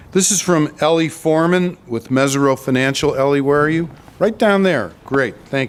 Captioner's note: none